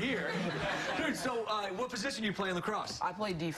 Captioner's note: laughter